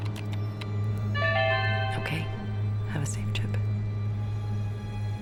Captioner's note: typing; chimes